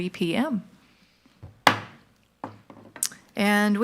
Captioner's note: gavel knocks